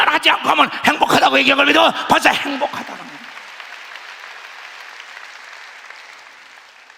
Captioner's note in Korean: 박수